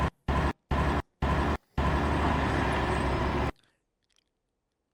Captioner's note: cars driving